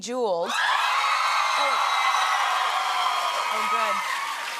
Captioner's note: cheers and applause